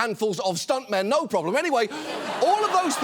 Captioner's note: audience laughs